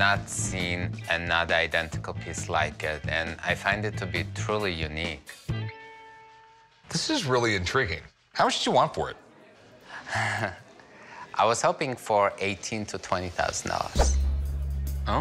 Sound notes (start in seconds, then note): 10.1 nervous chuckle